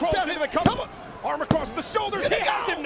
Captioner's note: referee tapping